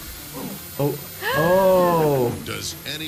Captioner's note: chainsaw whirring; gasps